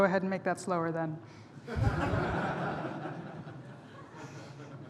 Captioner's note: laughter